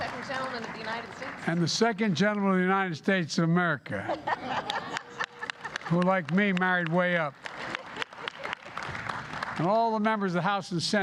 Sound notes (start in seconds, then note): 3.9 laughter